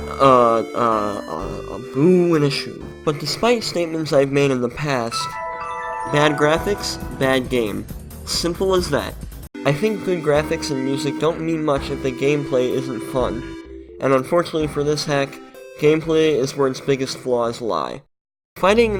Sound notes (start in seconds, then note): 5.1 Arthur flashback noise